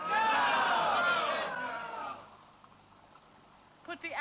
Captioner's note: all cry